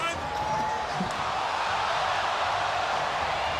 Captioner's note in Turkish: coşkulu tezahürat